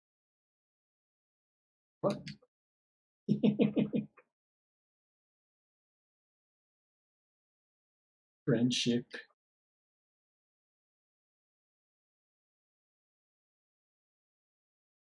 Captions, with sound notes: What— [chuckles] "Friendship."